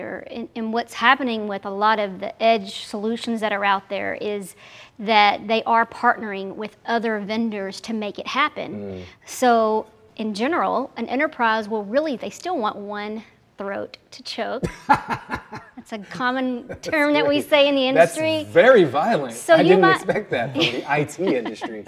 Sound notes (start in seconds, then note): 14.6 laughs